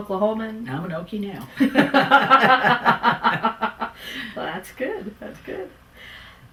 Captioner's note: laughter